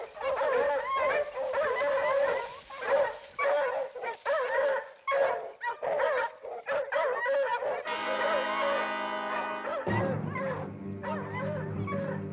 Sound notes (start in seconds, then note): 6.7 dogs barking continues; 7.9 dramatic music